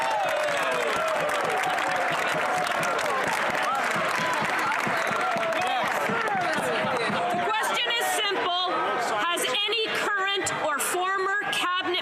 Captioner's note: some Applause